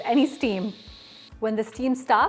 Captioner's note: steam hissing